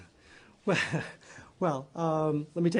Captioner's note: laughter